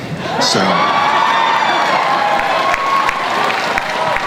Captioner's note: crowd cheers and applauds